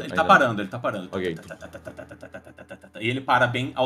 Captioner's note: engine sounds